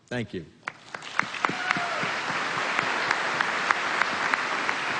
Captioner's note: applause